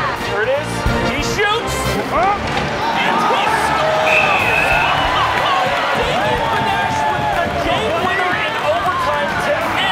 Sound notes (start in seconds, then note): 4.2 cheering